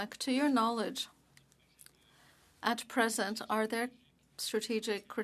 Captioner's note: speaking French